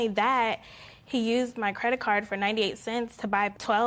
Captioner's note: none